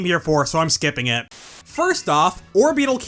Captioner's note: static